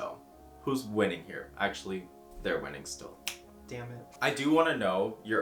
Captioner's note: snaps